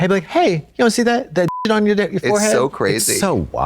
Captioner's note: beep